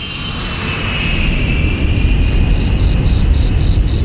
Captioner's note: insects chirring